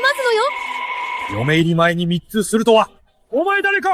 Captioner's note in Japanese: 叫び声